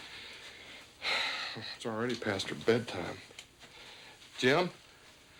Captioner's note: stan sighs